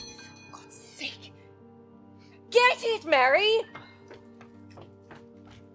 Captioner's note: doorbell rings